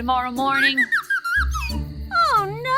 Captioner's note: disapointed chirping